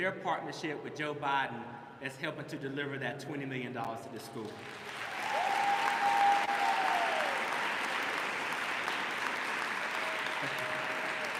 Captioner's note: applause